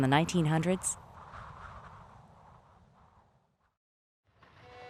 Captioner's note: wind blows; gentle pleasant music